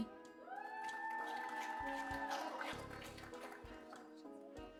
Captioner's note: applause